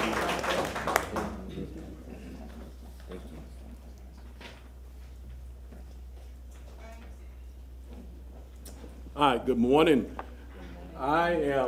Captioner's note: applause